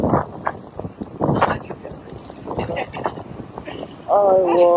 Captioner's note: laughs